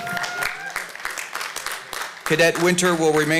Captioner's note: applause